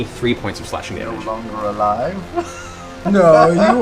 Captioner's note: laughs